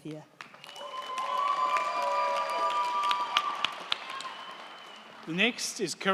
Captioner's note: crowd clapping; crowd cheering